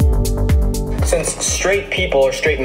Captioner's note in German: Dynamische Musik; englisch